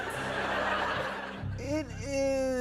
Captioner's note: laughter